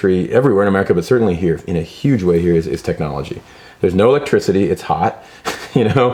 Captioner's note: laughs